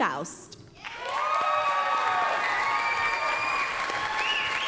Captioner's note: applause, cheering